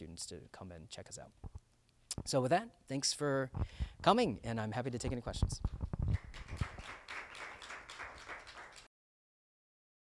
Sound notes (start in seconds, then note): 6.1 crowd applauding